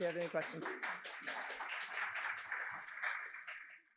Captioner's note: applause